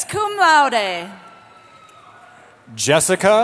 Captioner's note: cheering